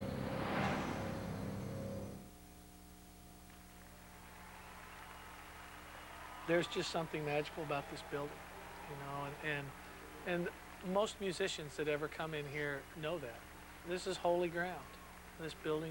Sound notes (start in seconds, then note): 3.6 crowd cheering